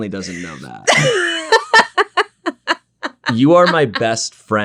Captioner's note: laughs